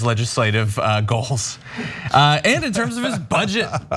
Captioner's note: laugh